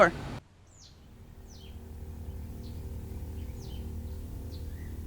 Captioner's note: birds chirping